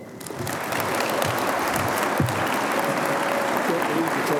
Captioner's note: audience applauding